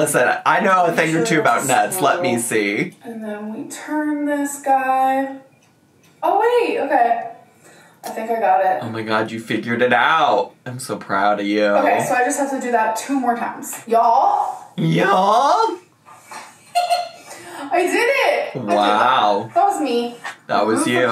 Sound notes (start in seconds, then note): 16.3 giggles